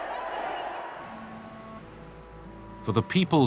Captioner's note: cheering